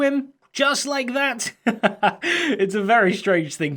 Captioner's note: laughs